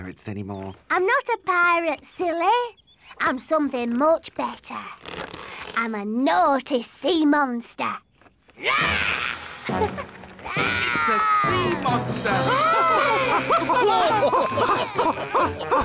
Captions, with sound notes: - playing pirates anymore. - I'm not a pirate, silly. I'm something much better. I'm a naughty sea monster! (roars) - (roars) - It's a sea monster! (screams)